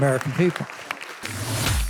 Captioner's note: audience applause